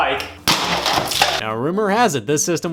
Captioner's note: water splashes